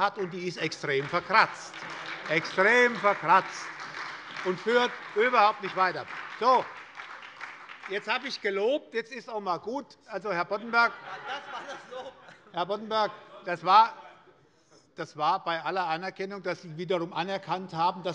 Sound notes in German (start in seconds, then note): 1.7 Beifall bei der SPD und bei Abgeordneten der FDP